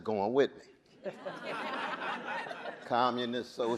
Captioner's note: audience laughing